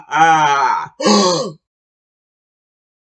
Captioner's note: evil laugh; Space Ghost gasps